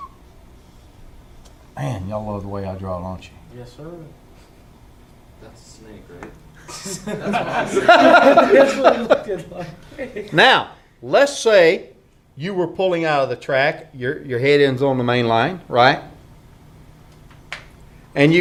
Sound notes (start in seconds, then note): 10.3 laughter